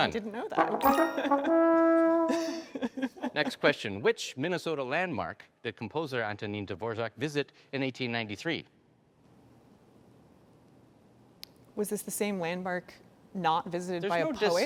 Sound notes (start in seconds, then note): 0.4 trombone music; 8.6 silence